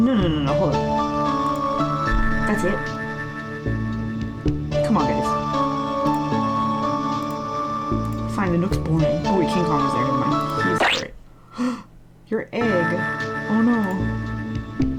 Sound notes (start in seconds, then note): 11.4 gasp